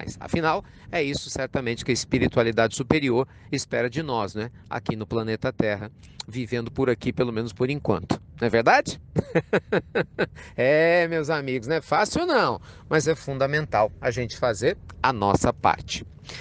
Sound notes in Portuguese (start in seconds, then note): 9.1 Risos